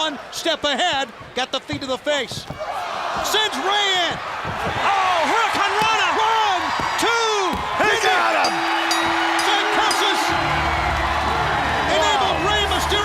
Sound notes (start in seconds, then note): 8.2 bell ringing